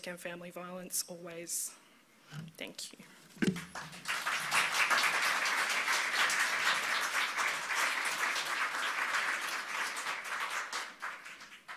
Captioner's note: applause